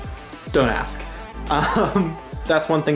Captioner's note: laughing